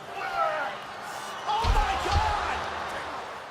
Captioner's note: crowd roaring